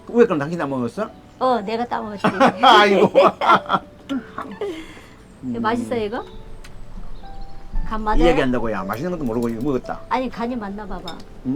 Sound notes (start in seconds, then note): 2.1 both laughing